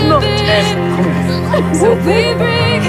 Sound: Georgie sobs

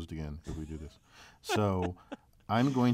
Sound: laugh

